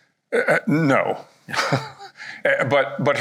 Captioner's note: chuckles